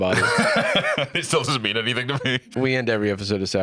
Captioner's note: laughs